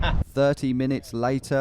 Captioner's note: laughs